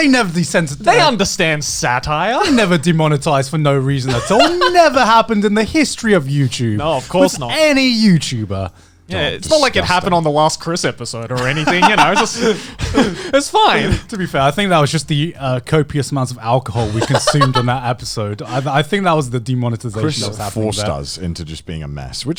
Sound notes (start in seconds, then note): 11.4 all laughs